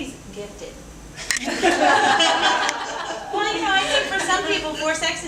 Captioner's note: audience laughing